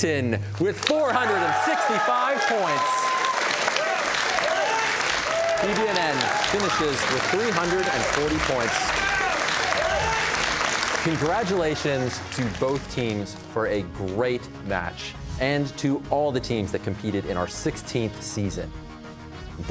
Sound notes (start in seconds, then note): 3.0 cheers and applause